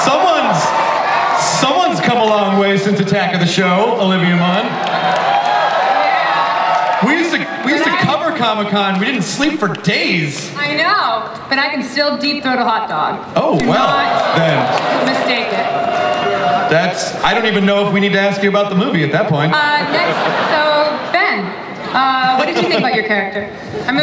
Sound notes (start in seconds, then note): 13.5 audience cheers; 19.6 audience laughs